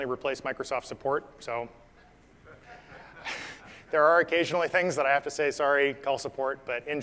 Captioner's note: laugh